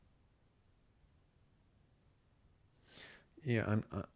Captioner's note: silence